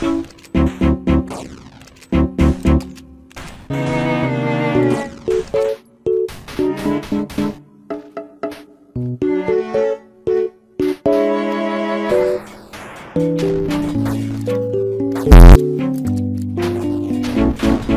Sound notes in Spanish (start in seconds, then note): 0.6 tun tun tun tun